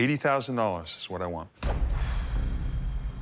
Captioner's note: exhales noisily; dramatic music